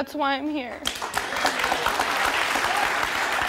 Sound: applauding

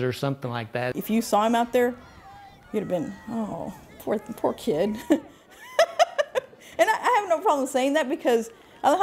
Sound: laugh

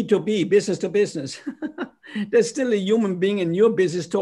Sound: laughter

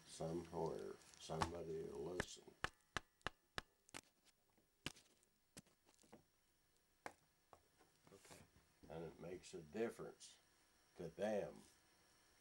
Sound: taps on recorder

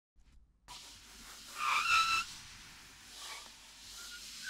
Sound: sliding

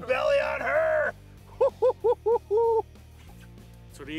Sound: laughs

